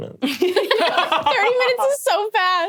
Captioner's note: laughing